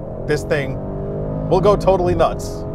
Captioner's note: car engine revving